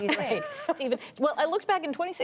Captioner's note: laughter